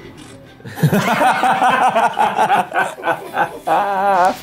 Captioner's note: players laughing